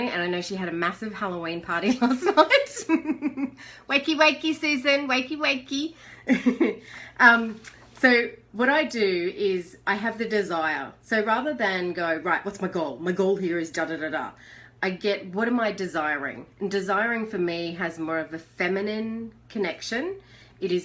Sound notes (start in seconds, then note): 6.2 chuckles